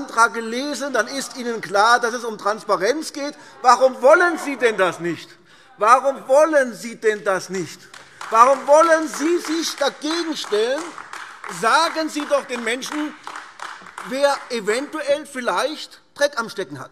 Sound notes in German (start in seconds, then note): 7.7 Beifall AfD